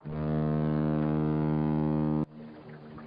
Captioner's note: ship horn